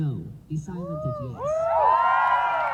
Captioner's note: cheers